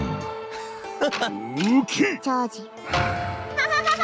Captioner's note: players chattering; giggling